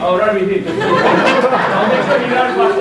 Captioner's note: audience laughing